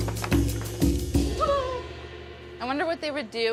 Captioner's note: gleeful cheering